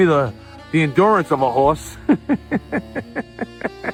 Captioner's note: laughs